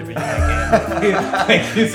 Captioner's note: laughter